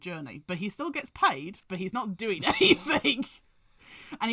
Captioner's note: laughs